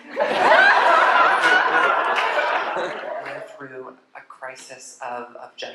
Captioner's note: laughter